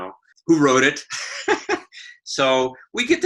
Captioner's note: laughs